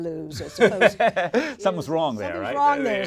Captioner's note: laugh